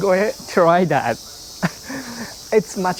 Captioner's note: chuckles